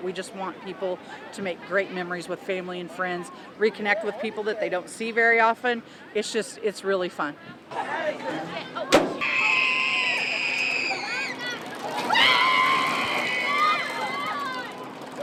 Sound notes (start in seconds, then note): 8.4 screaming; 8.9 door slamming